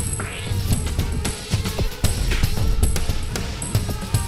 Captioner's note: buzzing